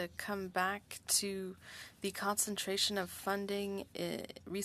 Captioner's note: speaking French